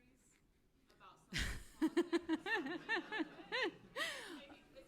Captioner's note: laughter